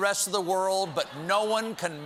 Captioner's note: applause; laughter